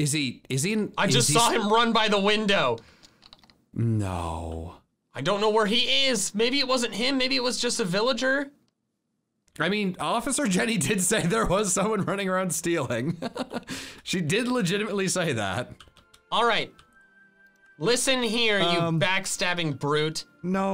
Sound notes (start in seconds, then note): 13.1 laughs